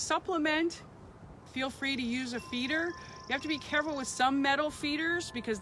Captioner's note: wind chime begins